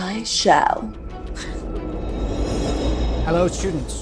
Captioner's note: air whooshing